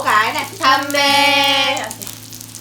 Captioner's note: Korean